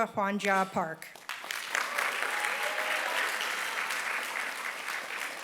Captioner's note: applause